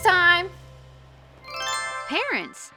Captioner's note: bright twinkling